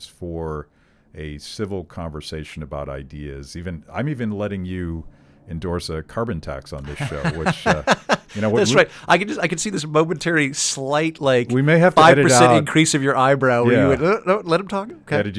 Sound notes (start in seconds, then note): 6.8 laughing